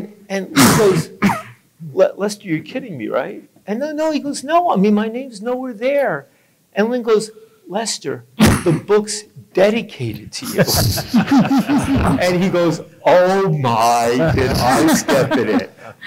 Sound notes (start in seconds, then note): 10.8 laughing